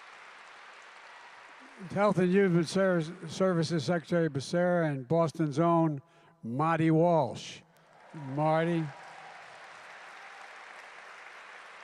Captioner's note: applause